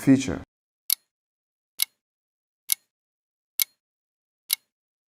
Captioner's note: clicking sounds